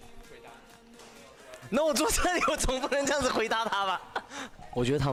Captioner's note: cute laugh